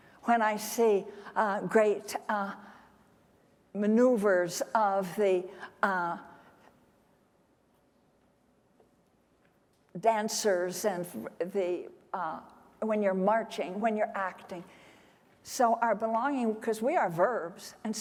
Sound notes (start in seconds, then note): none